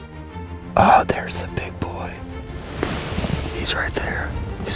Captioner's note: whispering